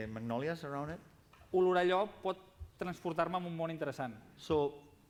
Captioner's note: non-english speech